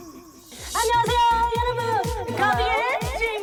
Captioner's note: vocal warm-up sound effect; doing their actual job sound effect